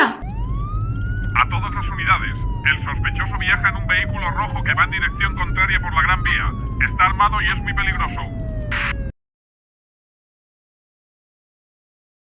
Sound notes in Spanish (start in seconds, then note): 0.3 Efecto: Sirenas de policía; 2.0 Efecto: Sirenas de policia; 8.5 Efecto: Cortar comunicación con walkie talkie